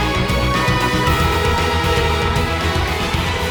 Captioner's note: ding dong